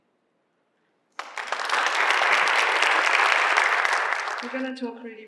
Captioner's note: applause